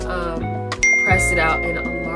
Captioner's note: bell dings